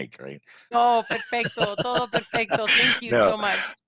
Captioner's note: Spanish